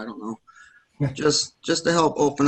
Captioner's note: laughs